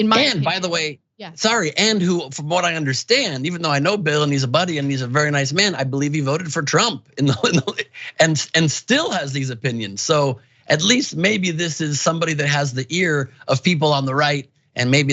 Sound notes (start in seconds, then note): 7.1 laugh